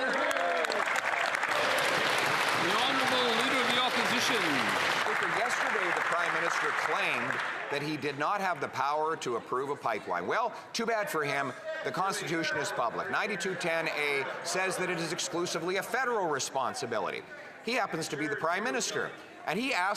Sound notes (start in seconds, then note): 3.8 some Applause